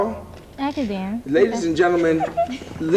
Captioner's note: laughing